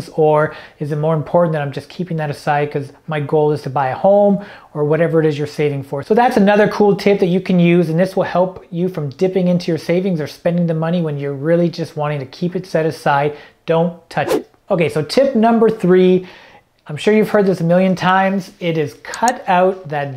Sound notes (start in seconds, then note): 14.2 air whooshing; 19.2 mouse clicking